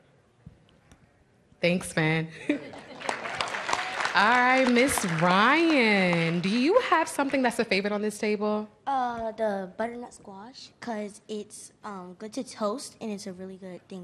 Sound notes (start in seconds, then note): 2.7 applause